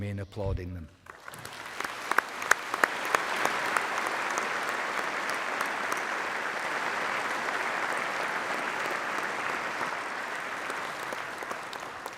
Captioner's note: applause